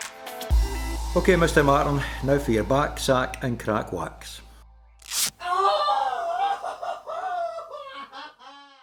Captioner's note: ripping sound and blood-curdling scream